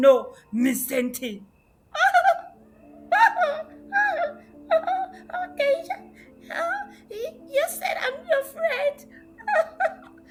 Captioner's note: cries